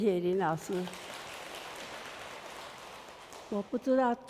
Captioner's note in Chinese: 眾人鼓掌